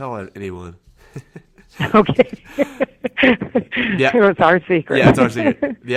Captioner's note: laughs